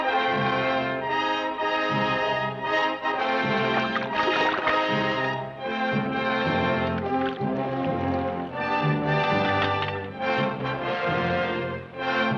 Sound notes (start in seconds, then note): 3.6 water splashes